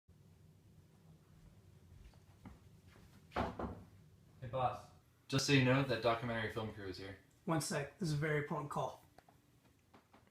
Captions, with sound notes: *Knocks on door* Hey boss. Just so you know that documentary film crew is here. One sec. This is a very important call.